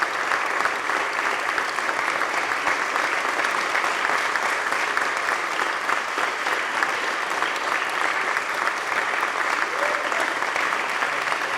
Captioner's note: applause